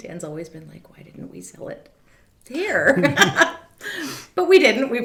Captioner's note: laughs